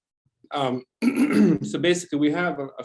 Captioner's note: clears throat